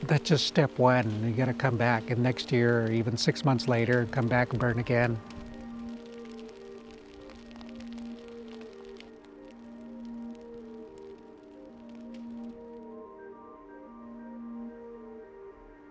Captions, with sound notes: That's just step one and we gotta come back and next year, even six months later, come back and burn again. (fire crackling) (calm music)